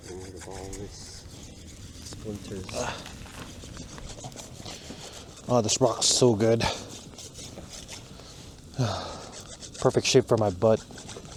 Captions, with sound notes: "Get rid of all this, splinters" *groans* "Ugh, this rock is so good" *sigh* "Perfect shape for my butt"